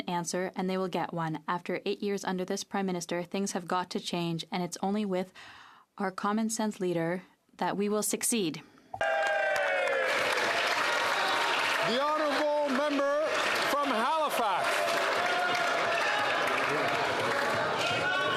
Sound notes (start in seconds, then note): 12.3 some Applause